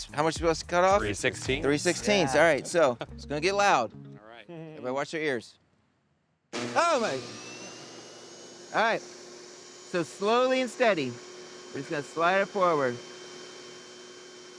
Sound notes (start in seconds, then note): 7.5 machine whirring; 14.3 machine whirring